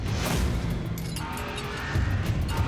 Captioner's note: clinks